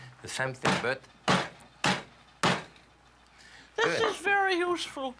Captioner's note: pounding